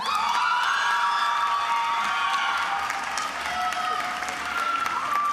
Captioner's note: attendees screaming and applauding